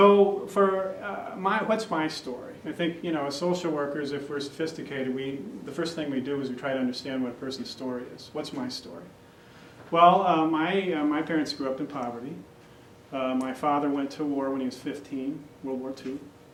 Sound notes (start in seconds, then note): none